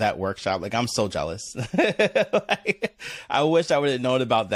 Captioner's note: laughs